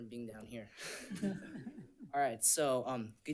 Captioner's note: audience laughs